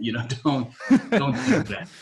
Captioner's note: laughing